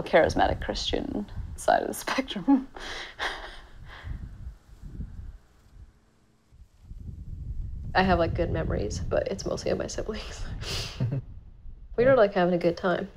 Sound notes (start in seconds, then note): 3.2 chuckling